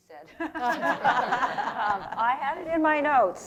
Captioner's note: laughter